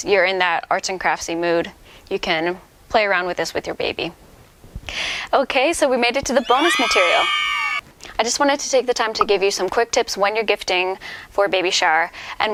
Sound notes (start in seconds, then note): 6.3 cheering noises in tehe background